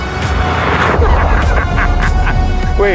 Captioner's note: uncontrollable laughter